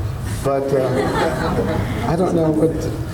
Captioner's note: audience laughs